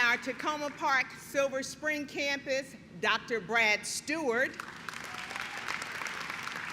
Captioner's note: clapping